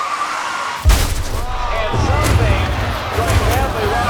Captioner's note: tires screeching